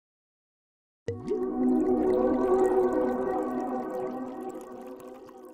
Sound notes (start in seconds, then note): 1.1 bubbling